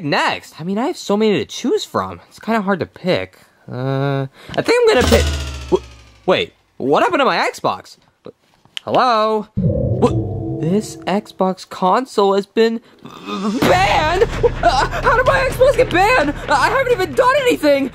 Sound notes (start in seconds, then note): 5.0 Xbox shuts down; 9.6 dramatic music